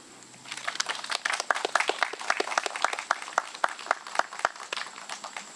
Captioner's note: audience clapping